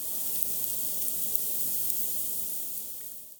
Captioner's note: sizzling sound